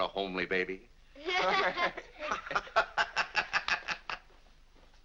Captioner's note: laughing